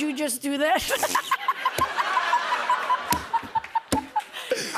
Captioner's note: laughter